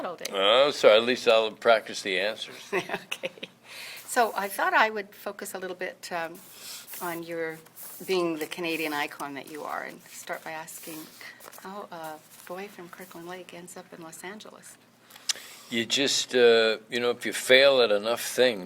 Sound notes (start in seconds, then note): 2.9 laughs